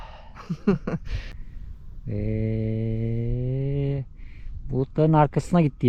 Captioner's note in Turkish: kahkaha